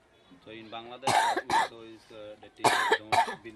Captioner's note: coughs